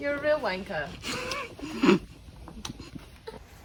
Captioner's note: stifled laughter